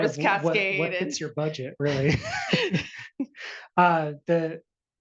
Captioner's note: laughs